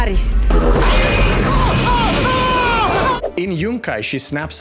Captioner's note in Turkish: çığlık